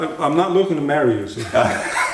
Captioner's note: laughter